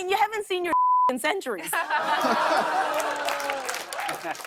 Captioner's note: audience ohhs